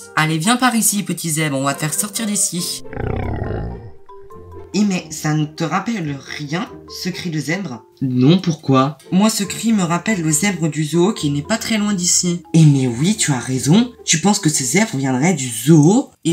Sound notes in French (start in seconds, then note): 2.7 Bruit de zèbre